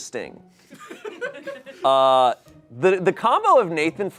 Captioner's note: audience laughing